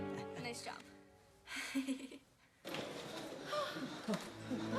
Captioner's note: gasping